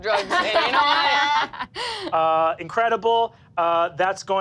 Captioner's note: all laugh